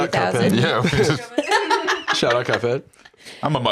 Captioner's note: laughs